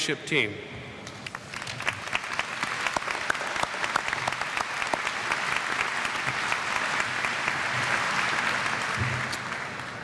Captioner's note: applause